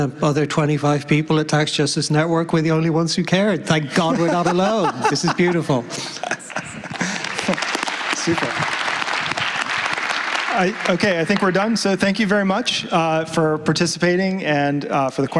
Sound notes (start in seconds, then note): 6.9 applause